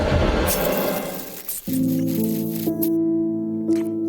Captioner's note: blood squelching; mid-tempo piano music